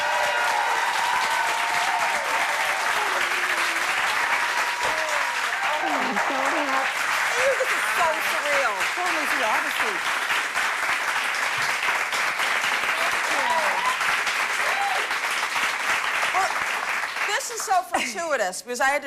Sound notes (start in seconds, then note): 0.0 applause; 3.9 cheers and applause